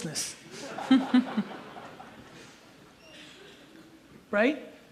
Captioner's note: audience laughs